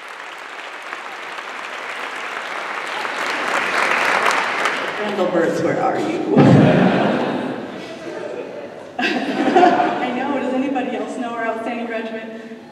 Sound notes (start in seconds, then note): 6.6 laughter